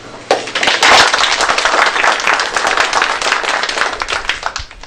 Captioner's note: applause